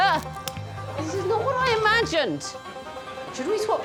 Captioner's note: exclaims